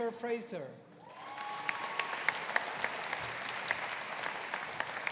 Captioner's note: audience applauding